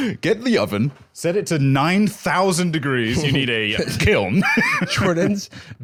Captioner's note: laughs